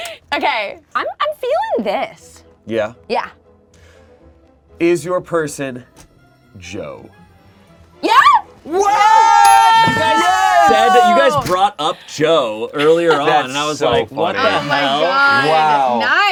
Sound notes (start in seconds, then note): 8.6 shouting in excitement; 9.4 bell clicking sound